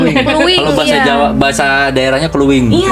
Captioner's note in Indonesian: tertawa